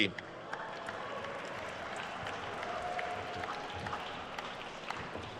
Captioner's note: attendees cheering and applauding